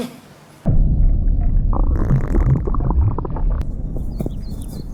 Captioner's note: gas reflux